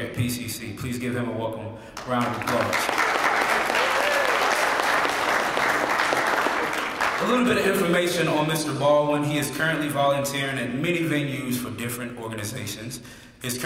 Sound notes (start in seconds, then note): 4.8 applause